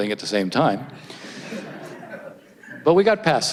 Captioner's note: audience laughs